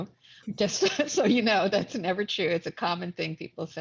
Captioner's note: laughs